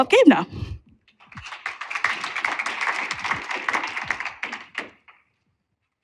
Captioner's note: applause